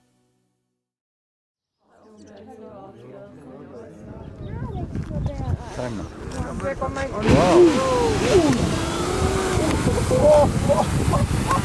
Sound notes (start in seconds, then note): 1.8 birds chirping; 1.8 group chattering; 7.1 water sloshing